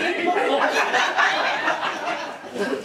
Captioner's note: laughing